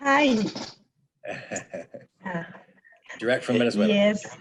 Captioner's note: laughing